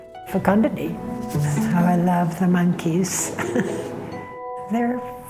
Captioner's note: chuckles